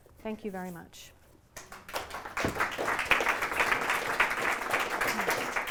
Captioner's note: applause